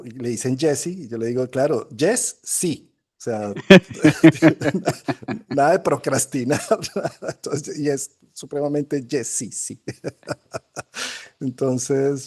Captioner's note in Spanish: risas